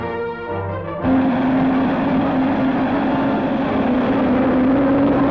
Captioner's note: rocket ship roaring